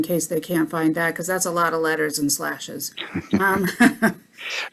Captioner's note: laughter